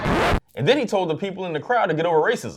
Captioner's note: record scratching